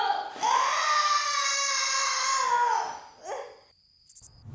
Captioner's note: screams